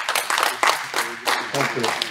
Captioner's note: applause